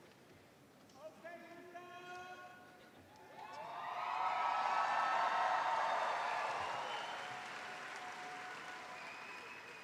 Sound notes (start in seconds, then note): 0.8 cheering